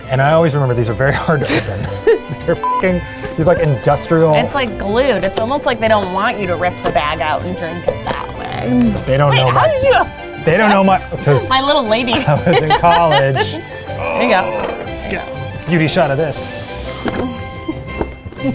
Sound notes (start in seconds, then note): 2.6 beeps; 14.0 grunting